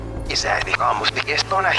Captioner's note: speaking spanish